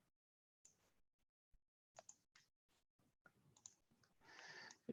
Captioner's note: mouse clicking